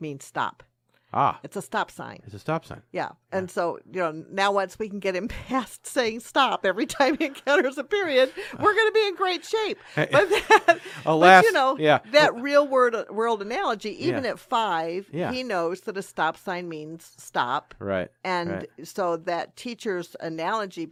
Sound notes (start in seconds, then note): 9.6 laughs